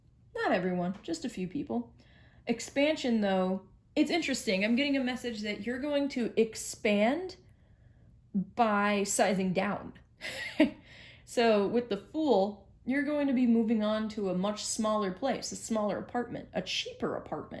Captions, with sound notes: Not everyone, just a few people. Expansion though; It's interesting, I'm getting a message that you're going to expand, by sizing down. (Chuckle), so, with The Fool, you're going to be moving on to a much smaller place, a smaller apartment, a cheaper apartment,